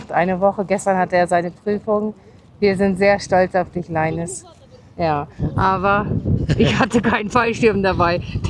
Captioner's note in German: gelächter